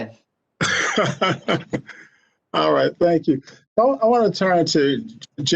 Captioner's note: laughs